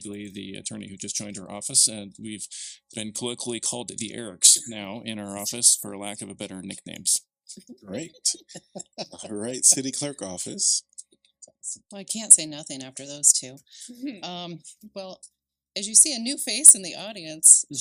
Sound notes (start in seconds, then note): 8.5 laughter